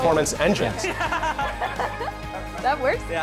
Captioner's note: laughing